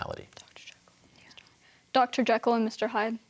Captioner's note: whispers